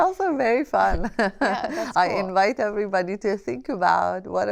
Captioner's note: laughter